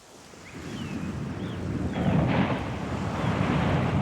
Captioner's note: ocean roaring